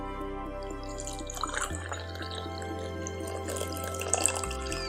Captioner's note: coffee pouring